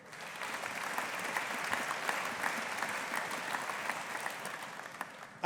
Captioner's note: audience applauding